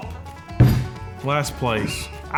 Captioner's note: jar thudding